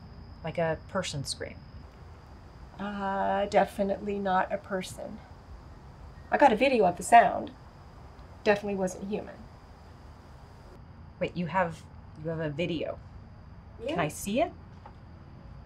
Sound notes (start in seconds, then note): none